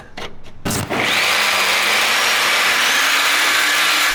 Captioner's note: power tools